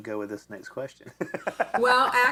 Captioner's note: laughs